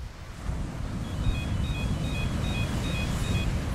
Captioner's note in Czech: elektronické pípání